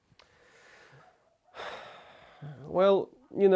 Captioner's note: sigh